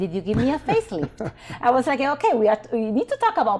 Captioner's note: chuckling